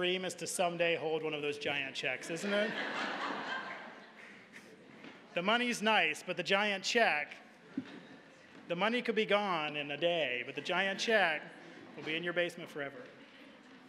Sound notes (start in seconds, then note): 2.2 audience laughing; 7.4 audience chuckling